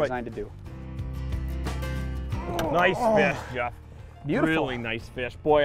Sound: grunting

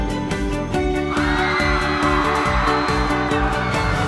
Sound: crowd cheers

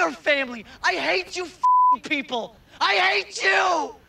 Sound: beeping

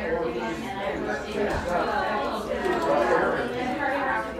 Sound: people chatting

